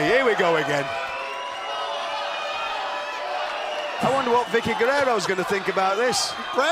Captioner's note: crowd cheering